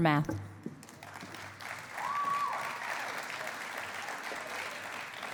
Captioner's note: cheering and applause